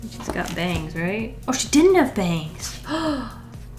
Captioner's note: gasps